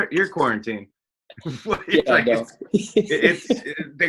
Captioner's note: both laugh